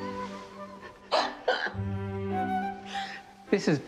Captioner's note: chuckles